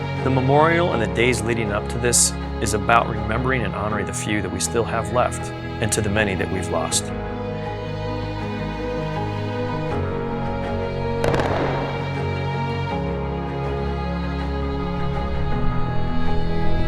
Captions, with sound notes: The memorial and the days leading up to this is about remembering and honoring the few that we still have left, and to the many that we've lost. (gunshots) (soft dramatic music)